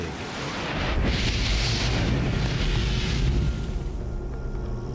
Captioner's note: exploding